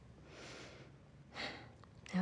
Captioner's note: exhales; inhales